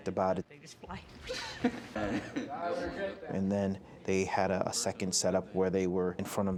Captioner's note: laughter